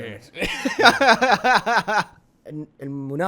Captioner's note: laughing